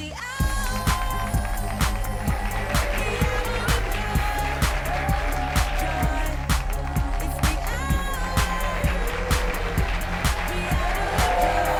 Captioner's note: applause